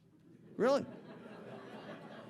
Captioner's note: audience laughing